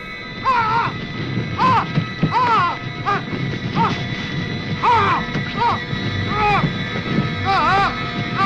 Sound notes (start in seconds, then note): 0.0 flames crackling; 0.5 vagrant yelling